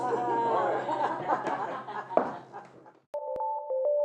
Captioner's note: laughing